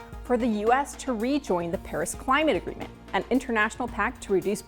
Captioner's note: none